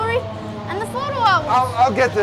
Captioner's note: house burning